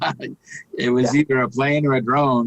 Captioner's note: laughing